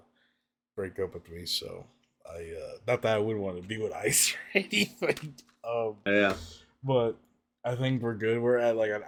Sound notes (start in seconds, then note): 5.5 laughs